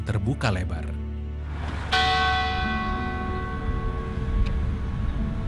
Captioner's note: bell rings